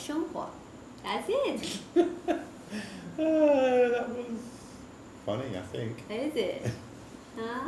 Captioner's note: 哈哈